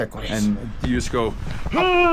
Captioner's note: grunts